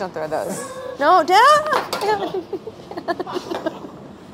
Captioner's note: laughing